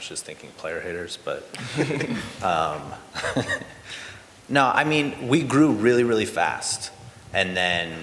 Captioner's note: laughter